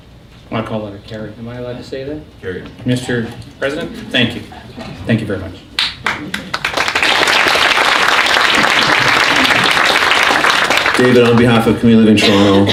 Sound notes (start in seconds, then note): 5.8 applause